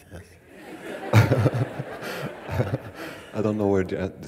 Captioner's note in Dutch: gelach